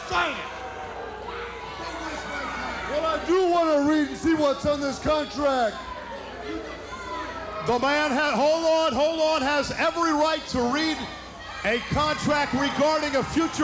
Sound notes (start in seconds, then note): 8.8 crowd boos